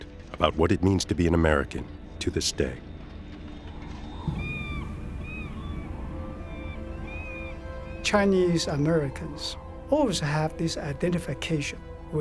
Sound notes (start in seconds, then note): 4.2 seagull squawking